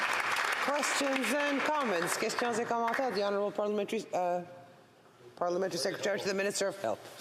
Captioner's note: applause